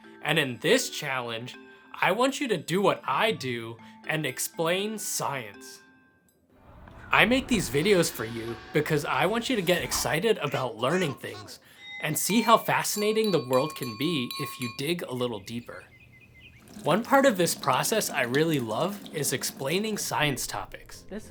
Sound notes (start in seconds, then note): 11.8 spoon dinging on glass; 14.2 birds chirping